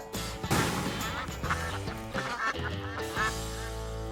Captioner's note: ducks quacking